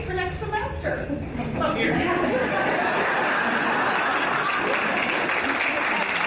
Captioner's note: audience laughing and applauding